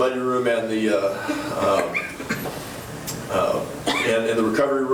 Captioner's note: woman coughing